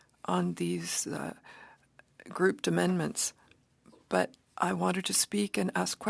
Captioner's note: speaking French